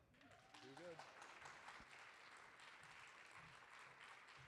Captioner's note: audience applauding